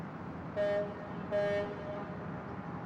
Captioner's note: ship horn blows